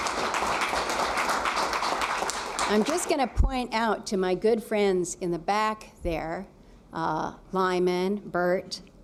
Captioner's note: applause